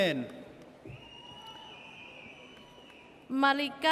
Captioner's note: audience cheers